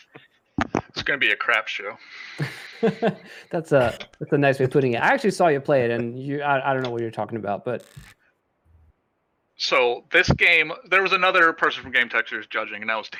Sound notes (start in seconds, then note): 2.4 laughter